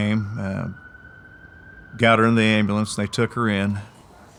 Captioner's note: monitors beeping